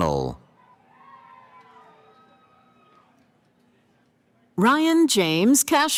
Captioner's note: cheering